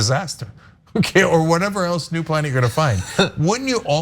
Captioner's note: laugh